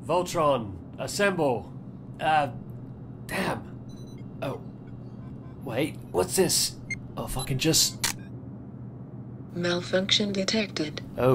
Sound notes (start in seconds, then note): 8.1 snap!